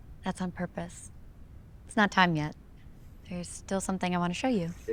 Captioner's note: none